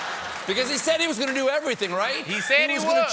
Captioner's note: laughter